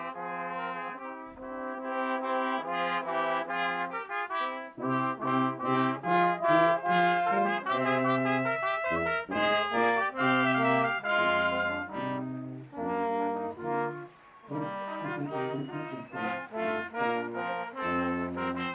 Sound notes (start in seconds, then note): 15.0 applause